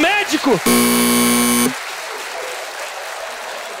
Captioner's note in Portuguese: campainha